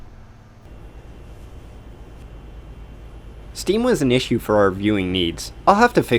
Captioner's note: Click from the hot dogger machine